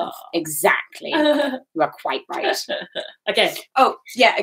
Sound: laughing

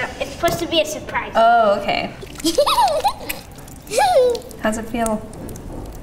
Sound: laughing

